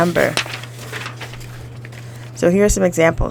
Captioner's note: paper shuffling